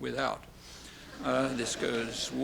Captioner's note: laughter